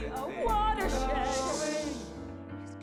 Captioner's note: shushing